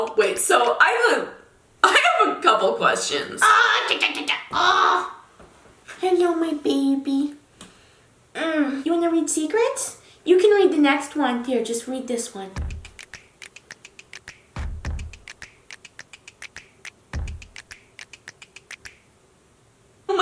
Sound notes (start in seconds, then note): 3.4 screeching and yelling; 12.6 upbeat music